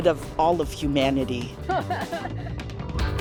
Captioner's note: laughing; upbeat music